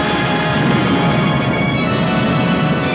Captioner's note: thunder rumbles